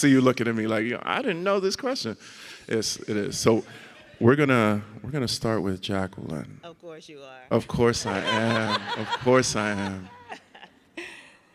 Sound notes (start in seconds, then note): 4.3 audience laughs; 7.6 audience laughs